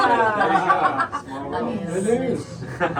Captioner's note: chatter